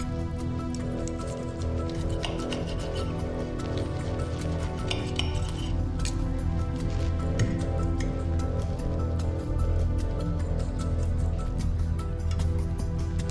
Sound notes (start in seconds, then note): 0.9 cutlery scraping; 0.9 tense music; 8.2 cutlery scraping; 8.2 tense music